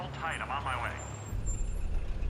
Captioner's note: car brakes screeching